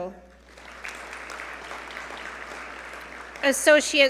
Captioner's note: audience applaud